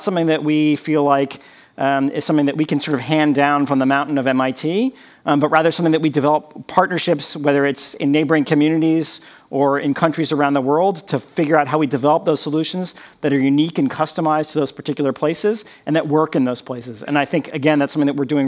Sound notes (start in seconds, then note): none